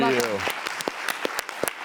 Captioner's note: audience clapping